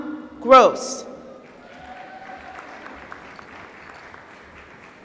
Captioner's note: applause